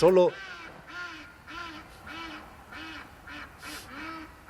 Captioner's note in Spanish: Un pato interrumpe con un fuerte graznido